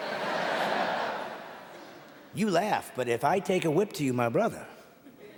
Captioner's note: audience laughing